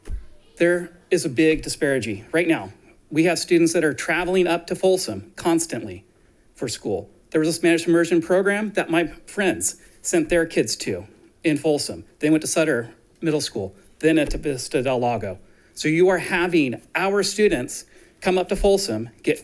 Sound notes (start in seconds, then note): none